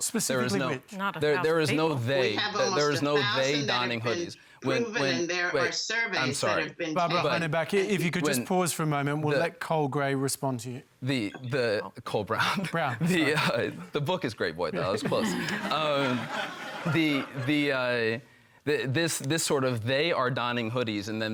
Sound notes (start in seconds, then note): 12.9 chuckles; 14.8 laughter